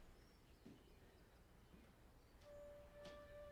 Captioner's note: none